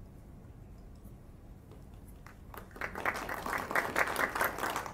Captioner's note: applause